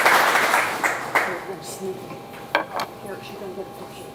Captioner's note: group chattering